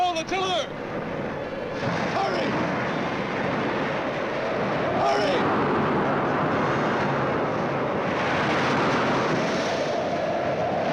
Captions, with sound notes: You hold the the pillar! - Hurry! (waves and wind roar) Hurry!